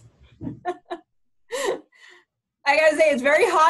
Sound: laughs

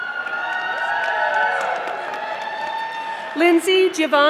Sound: audience applauding

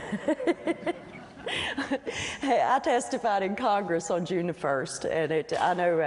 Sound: laughter

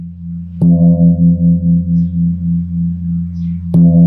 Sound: gong sounds

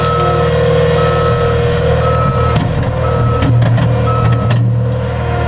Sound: machinery noises and beeping

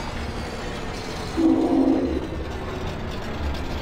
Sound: train whistle

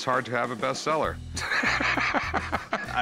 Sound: laughs

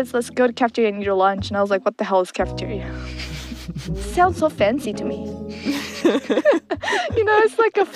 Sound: both laugh

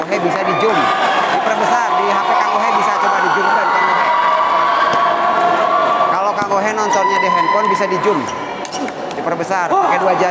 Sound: applause

